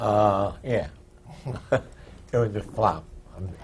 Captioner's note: laughs